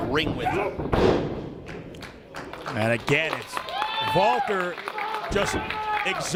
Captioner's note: applause